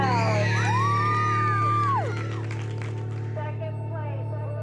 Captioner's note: crowd cheering